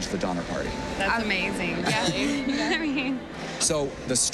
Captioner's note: chuckles